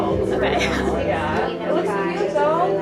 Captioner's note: chuckles